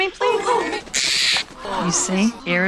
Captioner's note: bird screeches